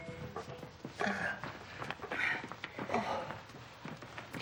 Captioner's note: Marion groaning